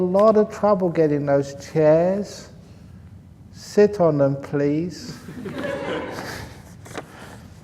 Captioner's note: laughter